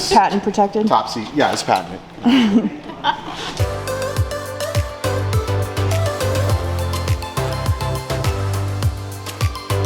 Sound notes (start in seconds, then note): 2.2 assistant laughing; 3.6 upbeat digital music